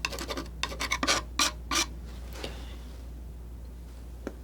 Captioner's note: scratching